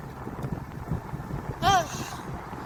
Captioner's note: exhales loudly